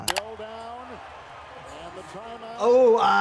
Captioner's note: graphic pops; video clicks; crowd roars